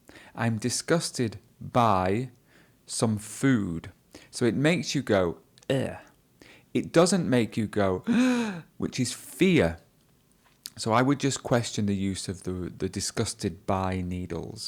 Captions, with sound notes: I''m disgusted by some food. So it makes you go, "eh". It doesn't make you go, (gasps), which is fear. So I would just question the use of the "disgusted by needles".